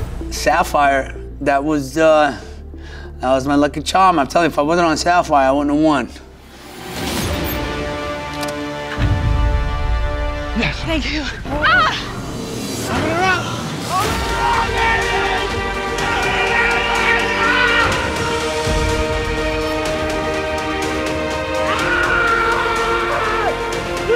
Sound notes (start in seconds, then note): 6.8 dramatic music; 13.8 exclaims excitedly; 18.4 dramatic music